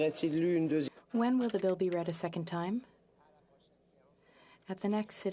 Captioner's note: speaking french